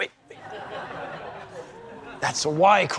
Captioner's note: crowd laughing